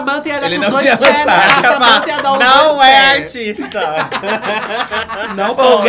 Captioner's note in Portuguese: risos